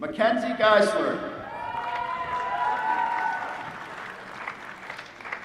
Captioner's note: applause